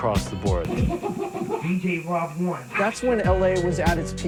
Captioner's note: records scratching